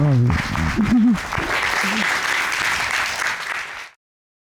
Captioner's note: cheers and applause